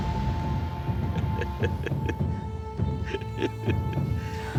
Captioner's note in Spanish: risa siniestra de él